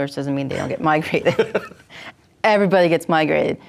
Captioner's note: laughter